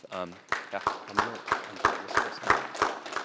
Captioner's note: applause